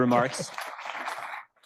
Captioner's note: audience applauding